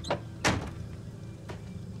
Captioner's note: car door slams